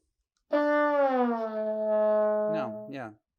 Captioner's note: horn blows